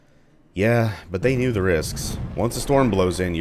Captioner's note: thunder